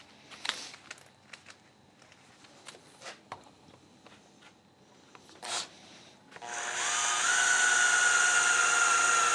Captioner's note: drilling